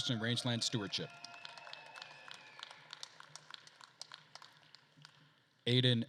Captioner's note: attendees cheering and applauding